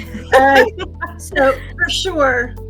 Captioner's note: participants chuckling